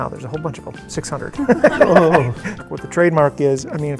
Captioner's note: group laughing